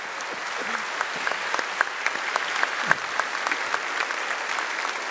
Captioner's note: applause